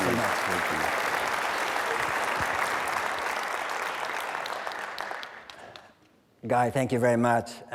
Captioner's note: applause